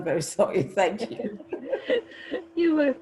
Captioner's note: laughter